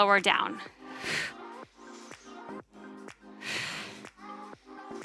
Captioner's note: oxygen breathing